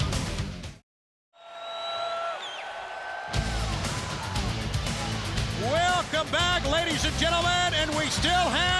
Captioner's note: applause